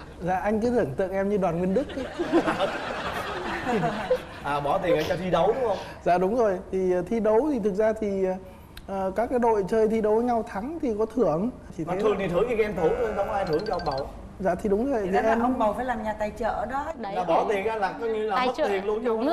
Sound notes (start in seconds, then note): 2.0 laughing